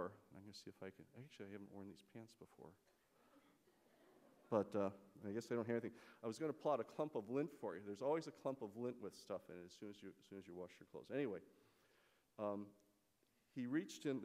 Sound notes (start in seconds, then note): 3.7 laughter